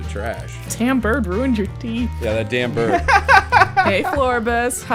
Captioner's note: laughter